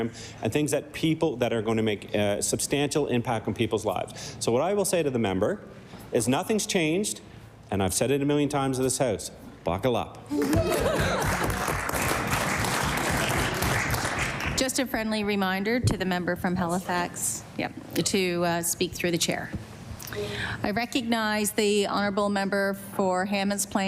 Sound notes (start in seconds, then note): 14.6 applause